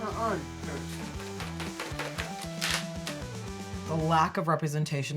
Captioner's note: material rustling